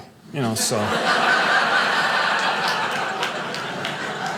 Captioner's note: audience laughing